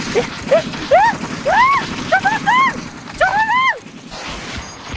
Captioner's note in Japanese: 悲鳴